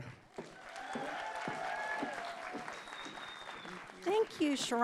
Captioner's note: audience clapping